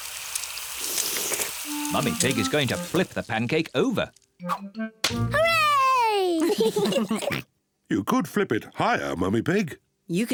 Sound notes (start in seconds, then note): 0.4 all slurp; 6.2 kids and mummy pig laugh